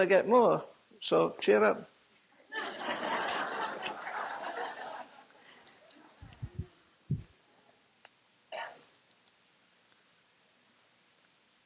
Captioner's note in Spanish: risas